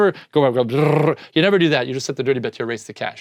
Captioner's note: rolls tongue